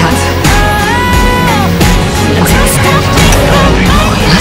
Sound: chanting

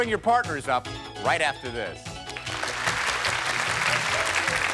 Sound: applause

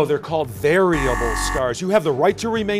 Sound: buzzer

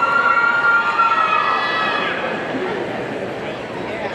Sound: audience cheering

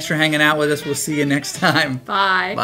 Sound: laughs

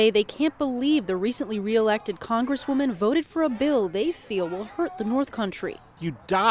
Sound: chanting

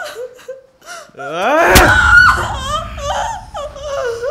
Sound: screams in pain

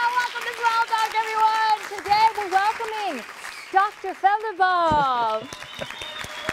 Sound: applause

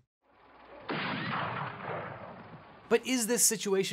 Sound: gun fires

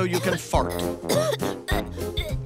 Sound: coughing

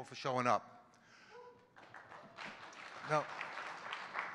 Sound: audience clapping

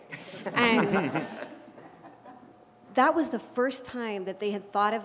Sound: laugh

